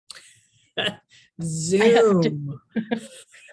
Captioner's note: giggles